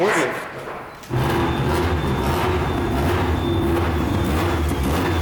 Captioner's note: car engine revs